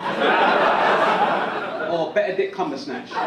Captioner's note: audience laugh